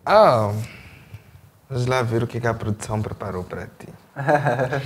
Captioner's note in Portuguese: risos